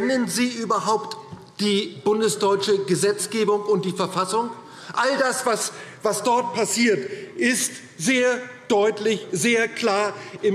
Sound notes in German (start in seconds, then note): none